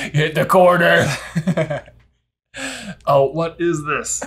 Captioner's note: laughter